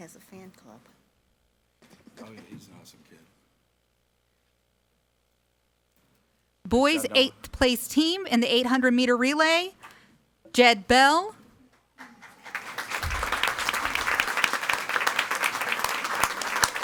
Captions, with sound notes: - Apparently he has a fan club. - He's an awesome kid. - Boys eight place team in the 800 meter relay, Jed Bell. (audience applauding)